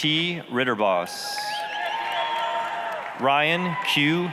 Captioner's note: applause, cheering